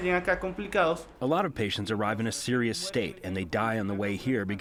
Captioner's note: through translator